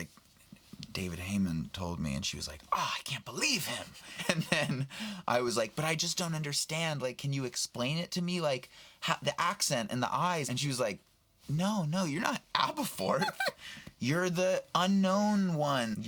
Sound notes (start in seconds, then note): 3.9 laughs